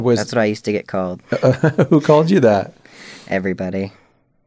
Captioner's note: laughter